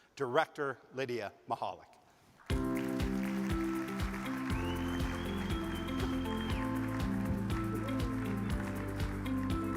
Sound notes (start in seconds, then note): 2.4 audience claps; 2.5 bright music